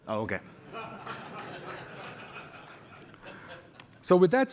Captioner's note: laughter